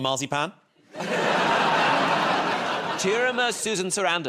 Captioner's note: laughter